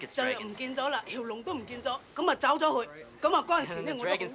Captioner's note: speaking Chinese